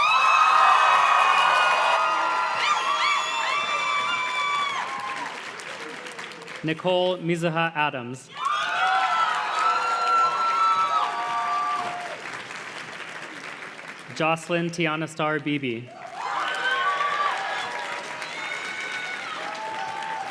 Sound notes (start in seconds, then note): 0.0 audience cheers and claps; 8.3 audience cheers and claps; 15.8 audience cheers and claps